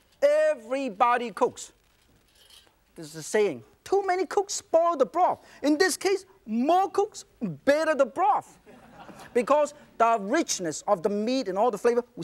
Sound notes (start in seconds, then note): 8.6 audience chuckles